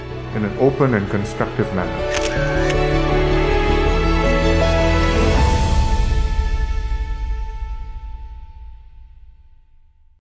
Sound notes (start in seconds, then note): 2.1 camera shuttering